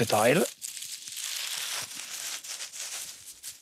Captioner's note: rustling